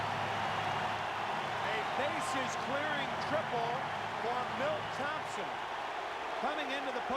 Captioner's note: applause; cheering and Applause